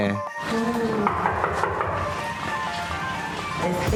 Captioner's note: knocking door